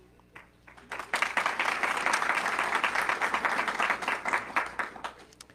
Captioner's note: audience clapping